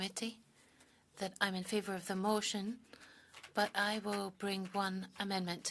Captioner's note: speaking French